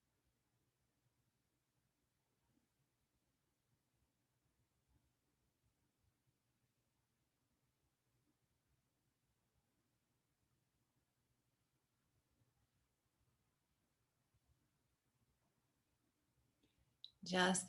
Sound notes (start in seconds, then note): 5.1 silence